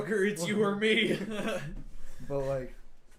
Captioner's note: laughing